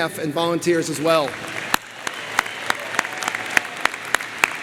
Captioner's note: crowd applauds